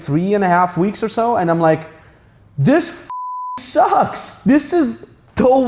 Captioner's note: beeps